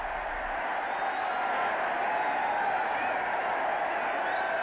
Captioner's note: crowd cheering loudly